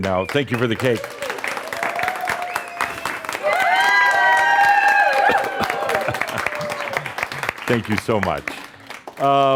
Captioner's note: audience cheers and applause as he blows out the candles